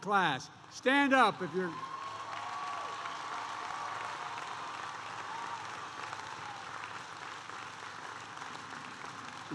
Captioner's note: applause